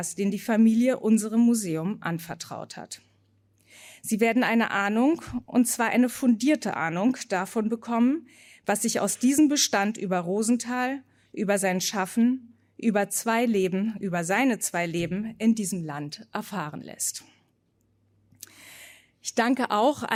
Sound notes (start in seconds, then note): none